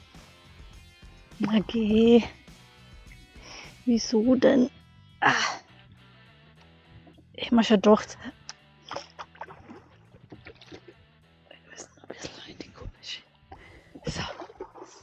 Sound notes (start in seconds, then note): 8.3 rock music & paddling; 11.7 whispering